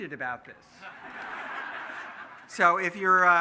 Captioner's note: laughing